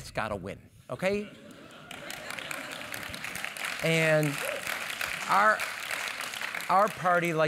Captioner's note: laugh; applause